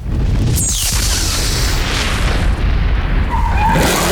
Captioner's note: boooooooommmm